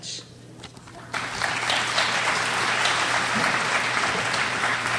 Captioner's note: crowd applauds